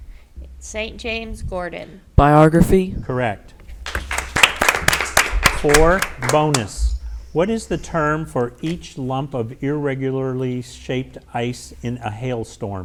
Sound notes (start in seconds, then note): 3.8 audience applauds